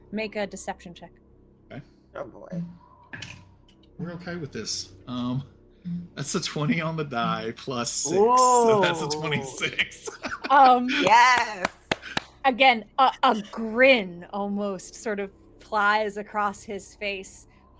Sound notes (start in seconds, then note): 10.2 laughing